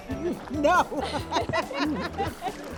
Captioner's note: laughs